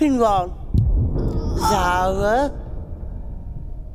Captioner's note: low, distant thump